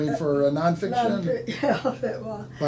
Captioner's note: laughing